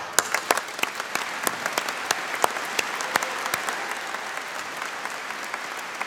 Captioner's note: applause